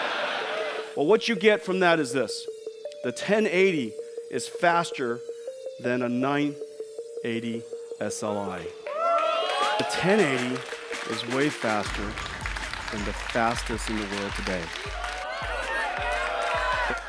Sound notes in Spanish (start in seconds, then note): 9.3 Vítores